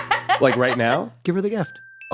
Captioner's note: cackles